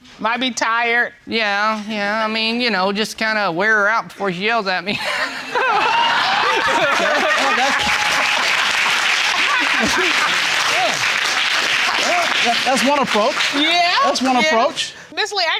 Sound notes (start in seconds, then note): 5.0 all laughing; 8.5 audience applauding; 9.7 both laughing